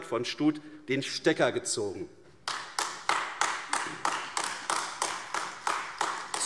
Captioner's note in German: Beifall AfD